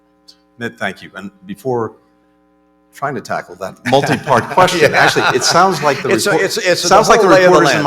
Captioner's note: laughter